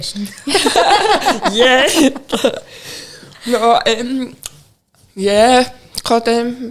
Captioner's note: laughing